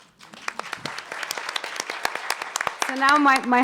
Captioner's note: audience applauding